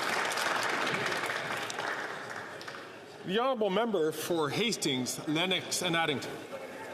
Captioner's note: some Applause